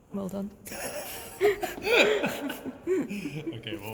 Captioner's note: laughter